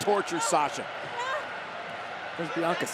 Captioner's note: Sasha cries